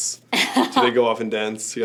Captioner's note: laughs